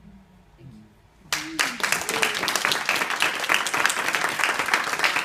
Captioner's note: applause